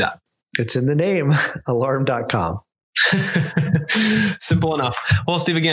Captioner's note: both laugh